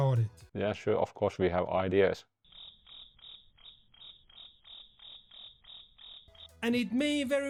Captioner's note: crickets